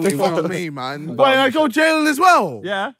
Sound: laughing

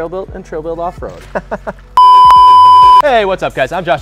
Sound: laughing

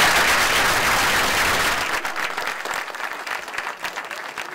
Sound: applause

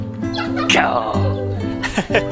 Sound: lion roar in Japanese

